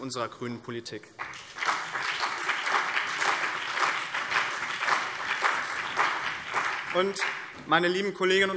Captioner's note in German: Beifall BÜNDNIS 90/DIE GRÜNEN und vereinzelt CDU